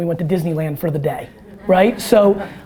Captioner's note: audience laughter